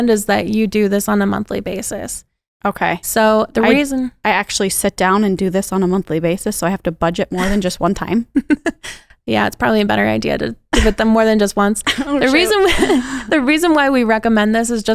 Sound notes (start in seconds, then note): 8.3 laughs